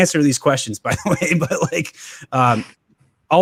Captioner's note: laughing